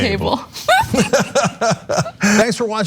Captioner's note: laugh